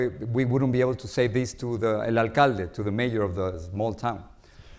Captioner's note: says Spanish word